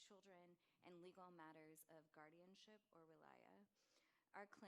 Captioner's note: non-english